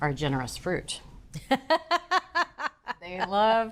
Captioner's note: laughs